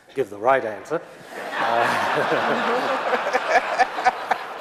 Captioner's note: audience laughing